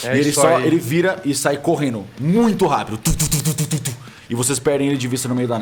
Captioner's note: thump thump thump